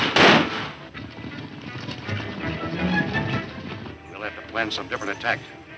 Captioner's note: fast hoof beats; fast tense music